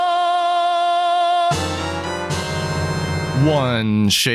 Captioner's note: OoA item sound effect